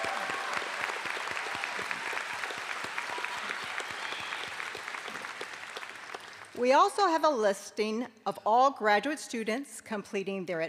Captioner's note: applause